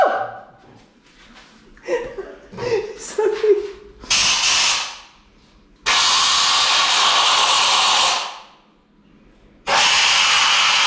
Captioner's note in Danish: kompressorluftstøj